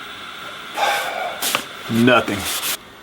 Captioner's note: sighs